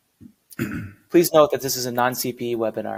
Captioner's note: throat clearing